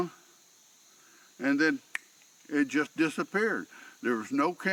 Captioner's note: fingers snapping